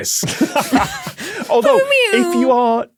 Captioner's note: laughs; giggles, pews